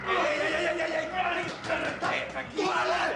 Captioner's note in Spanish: Gritos